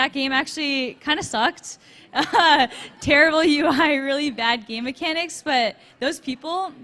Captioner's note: laughs